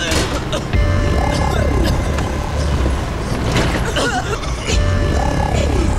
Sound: coughs

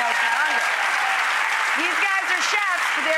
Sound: audience applauds

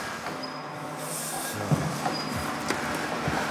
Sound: quietly

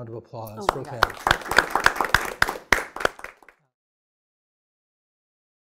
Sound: everyone clapping

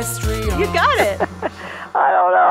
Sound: laughing

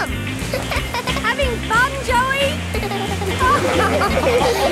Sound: laughing; giggles

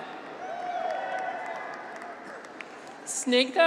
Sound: graduates cheer

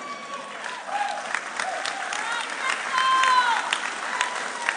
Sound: audience cheering

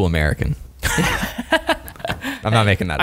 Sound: laughter

